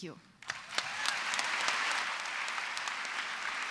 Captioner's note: applause